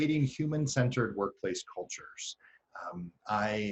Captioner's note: none